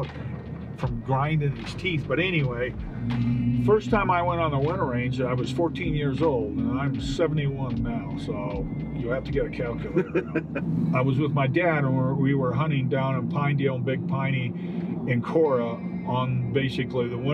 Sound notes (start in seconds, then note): 9.9 laughing